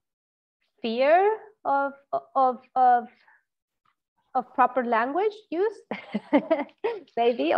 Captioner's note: laughs loudly